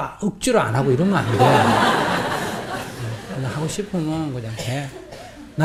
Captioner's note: audience Laughter